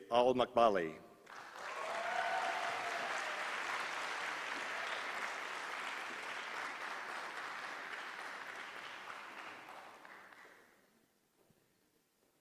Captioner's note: applause